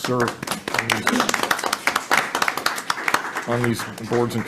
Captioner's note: all clapping